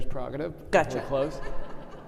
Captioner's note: audience laughing